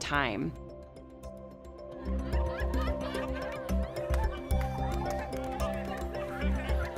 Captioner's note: upbeat music; laughing people